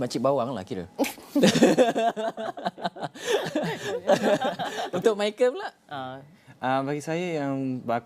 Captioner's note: laugh